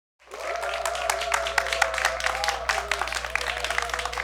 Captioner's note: applause